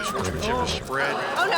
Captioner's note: horse neighs